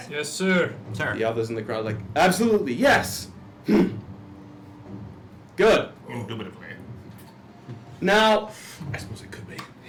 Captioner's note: affirmative grunt